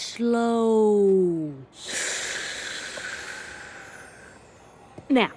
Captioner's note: exhales s slowly